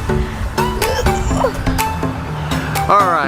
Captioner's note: boy laughs; boys groans